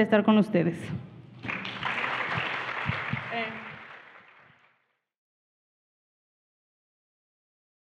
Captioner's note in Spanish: Aplausos